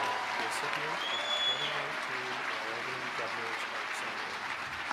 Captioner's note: audience applauding